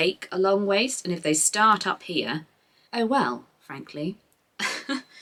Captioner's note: laughs